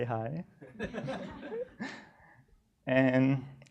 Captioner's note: crowd laughing